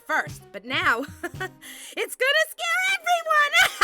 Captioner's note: laughs menacingly; laughs